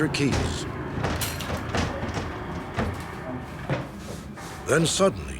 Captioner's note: banging